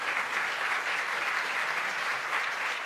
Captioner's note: applause